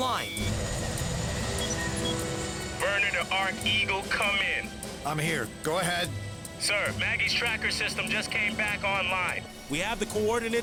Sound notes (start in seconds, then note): 0.3 rotors beating